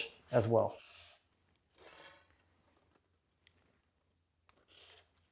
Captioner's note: marker whooshing